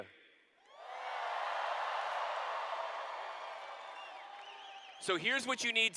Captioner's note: cheers